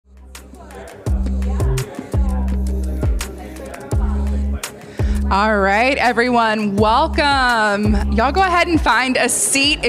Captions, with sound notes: (upbeat electronic music) (audience chattering) - All right, everyone. Welcome. Y'all go ahead and find a seat